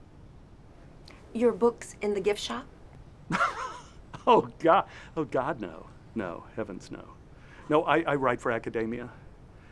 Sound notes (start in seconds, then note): 3.3 laughs